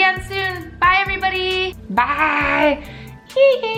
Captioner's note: weird voice